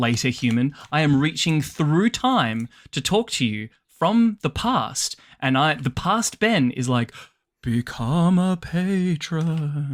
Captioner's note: spooky voice